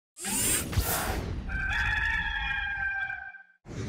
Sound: rooster noises

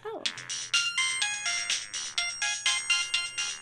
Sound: phone ringing

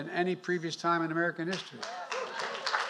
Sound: applause

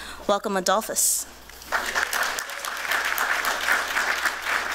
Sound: applause

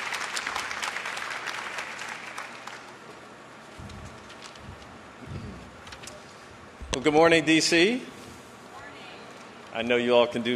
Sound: applause

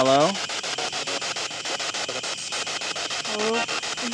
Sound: static pulsing

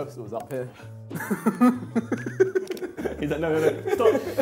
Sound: laughing

